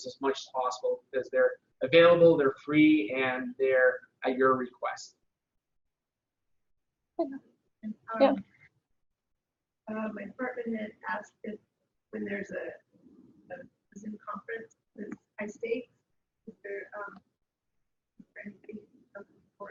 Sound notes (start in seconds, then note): 8.0 mic garbling; 13.1 audio drops